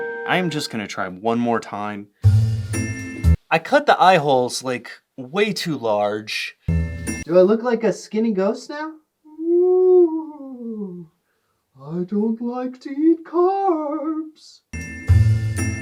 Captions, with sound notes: I am just gonna try one more time. I cut the eye holes like way too large. Do I look like a skinny ghost now? "(Really good ghost voice) Ooh, I don't like to eat carbs."